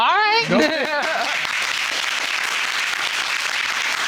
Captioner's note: applauding